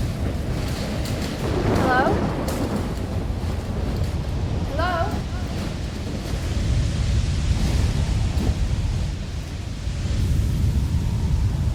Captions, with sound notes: - Hello. Hello. (wind gushing)